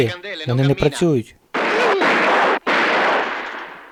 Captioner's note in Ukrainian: стрільба